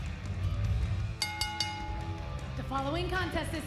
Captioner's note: bell ringing